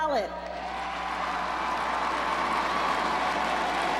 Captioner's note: crowd cheers